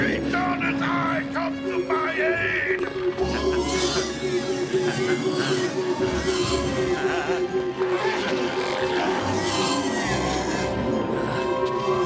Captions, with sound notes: Shasana's eye, come to my aid. (Memlock growling) (laser whirring)